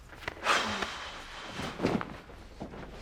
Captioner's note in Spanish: suspiro